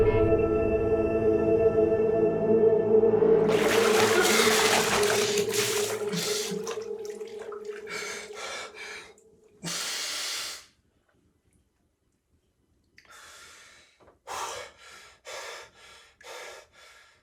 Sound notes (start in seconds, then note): 3.4 water splashing; 3.7 Aiden gasping; 13.1 Aiden exhaling; 14.3 Aiden panting